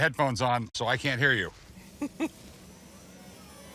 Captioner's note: laughs